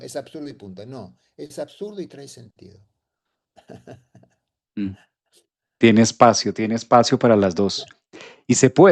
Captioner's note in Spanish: carraspeo